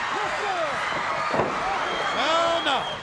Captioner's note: canvas thudding